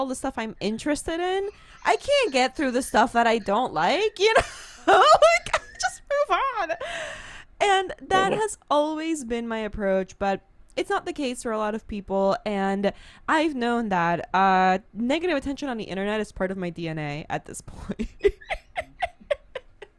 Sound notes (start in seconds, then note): 4.7 laughs; 18.0 laughs